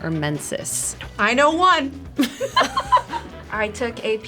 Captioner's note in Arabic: يضحك